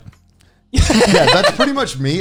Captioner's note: laughs